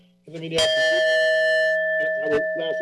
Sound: bell dings

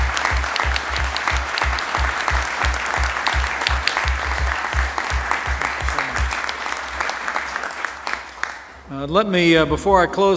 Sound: applause

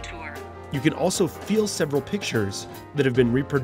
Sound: voiceover

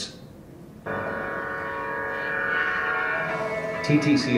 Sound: train whistles

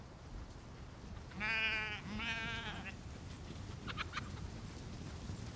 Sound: sheep bleating

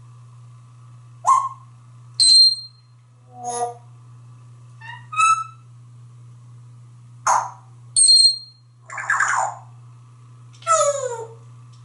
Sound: tweets and whistles

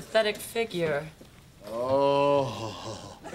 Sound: <i>moaning; <i>clears throat

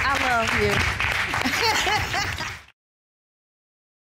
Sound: chuckles

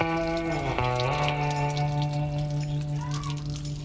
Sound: water spraying

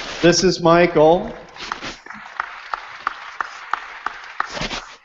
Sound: applause

